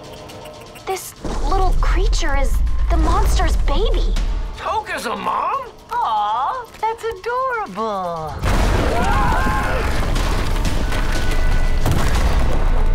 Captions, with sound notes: This little creature is the monster's baby. Tokka's a mom? Aw. That's adorable. [screaming]